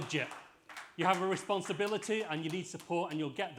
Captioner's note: applause